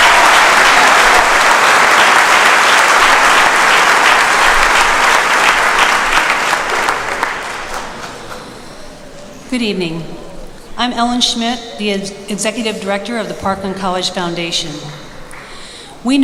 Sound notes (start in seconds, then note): 0.0 applause